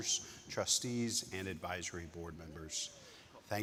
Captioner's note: attendee cheering